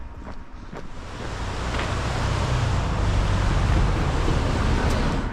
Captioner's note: water rushing